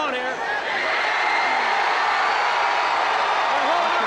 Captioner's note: crowd cheering